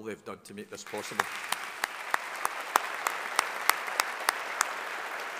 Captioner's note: audience applauding